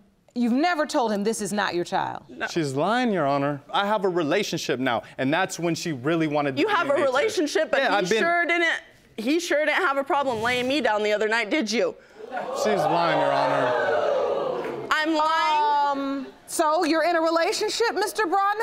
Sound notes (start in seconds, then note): 12.2 audience exclaiming